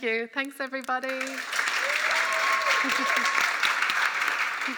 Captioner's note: applause